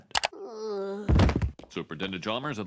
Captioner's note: Bart groans